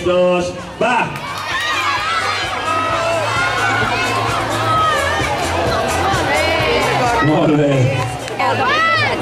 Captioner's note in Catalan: Gent animant